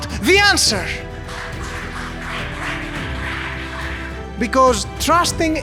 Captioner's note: clapping